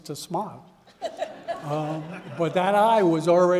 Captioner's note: audience laughing